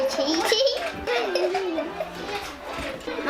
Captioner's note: laughs